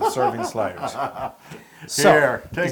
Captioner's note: laugh